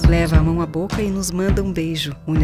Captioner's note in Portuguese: sussurra